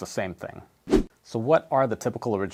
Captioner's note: air whooshes